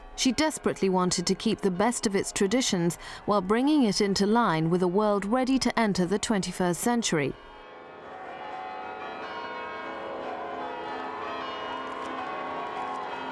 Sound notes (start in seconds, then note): 7.6 church bells pealing